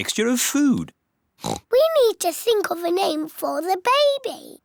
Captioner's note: oinks